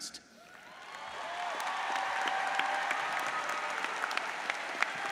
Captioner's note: audience applauds